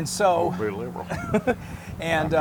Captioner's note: laugh